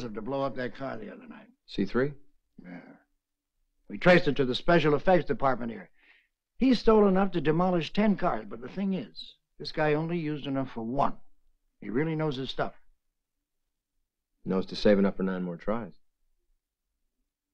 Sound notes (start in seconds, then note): none